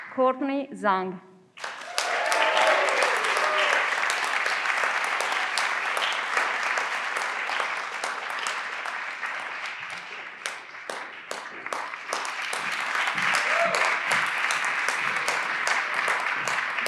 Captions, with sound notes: Courtney Zang. (everyone claps)